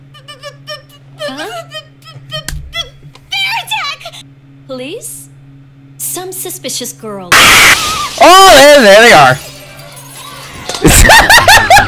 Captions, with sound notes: b-b-b-b-b-b-b-b-b-bear attack! Police some suspicious girl [SCREAM] Oh and there they are [Laughs]